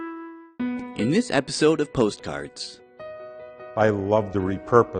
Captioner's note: voiceover